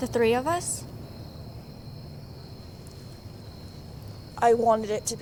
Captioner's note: insects chirping